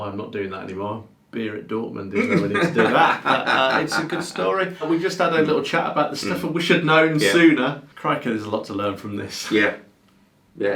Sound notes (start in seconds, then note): 2.1 laughing